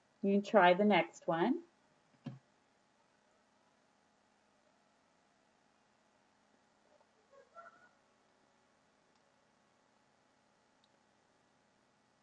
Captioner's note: silence